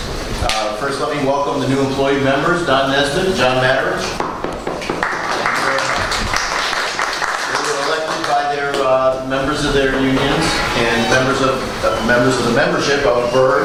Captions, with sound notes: First let me welcome the new employee members, Don Nesbit and John Maderich. [Applause] Thank you very much. They were elected by their members of their unions and members of the membership of BERS.